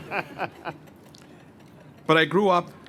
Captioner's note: laughter